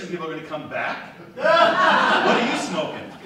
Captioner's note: audience laughs